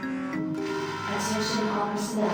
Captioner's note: loud alarm